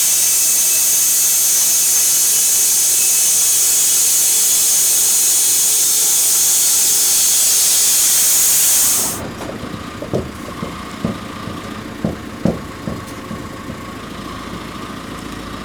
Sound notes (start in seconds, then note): 0.0 saw continues buzzing; 9.0 vehicle rumbling